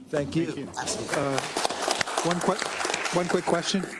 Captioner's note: applause